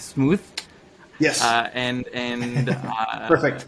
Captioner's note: laughs